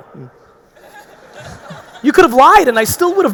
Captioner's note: audience laughing